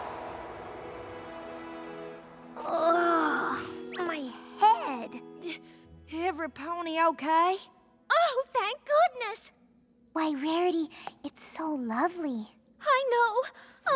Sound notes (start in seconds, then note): 2.6 groans